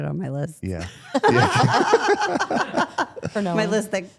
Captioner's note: participants laugh